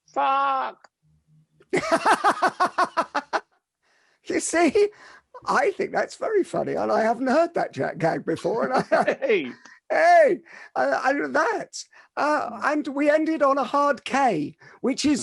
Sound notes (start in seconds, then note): 1.7 laughs